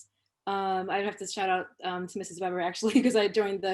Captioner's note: laughter